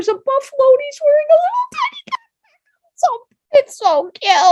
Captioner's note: giggles